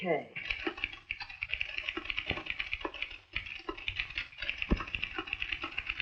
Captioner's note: typewriter keys clacking